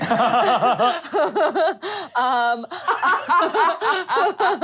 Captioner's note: laughing